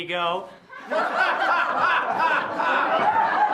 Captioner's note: laughing